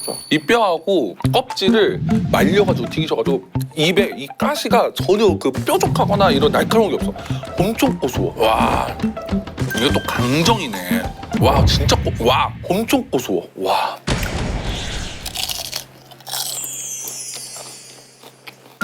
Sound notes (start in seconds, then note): 15.0 Crunch; 15.1 the sound alone tells you how crispy it is